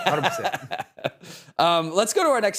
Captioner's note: laughing